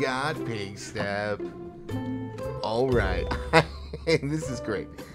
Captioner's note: laughs